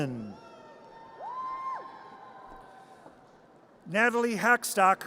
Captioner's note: audience cheers